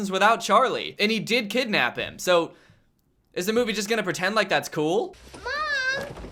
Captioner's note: nice voice crack